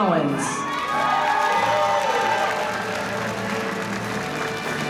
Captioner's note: applause